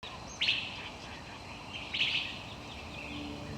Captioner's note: birds chirping